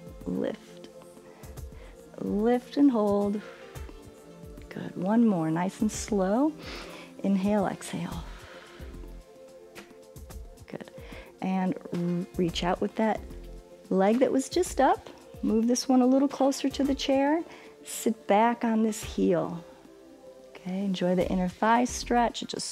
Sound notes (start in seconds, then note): 6.6 inhales; 6.6 exhales